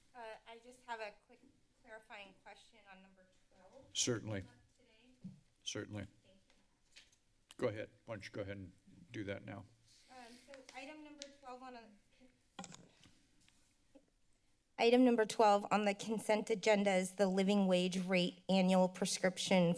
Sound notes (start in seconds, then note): 12.4 microphone rustling sound